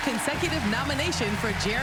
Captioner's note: applause